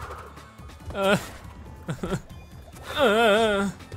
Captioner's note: groaning